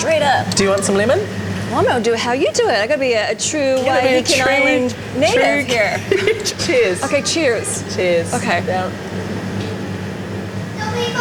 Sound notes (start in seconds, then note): 6.0 laughing